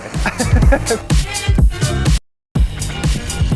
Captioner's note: chuckles